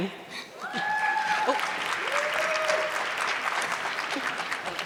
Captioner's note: audience clapping